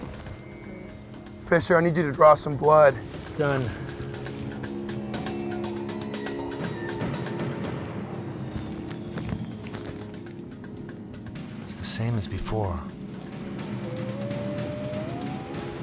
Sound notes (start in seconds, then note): 6.4 air hissing; 13.8 dog whimpers